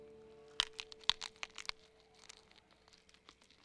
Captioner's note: crunching